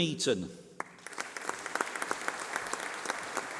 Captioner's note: applause